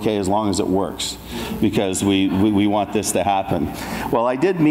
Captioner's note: audience laughs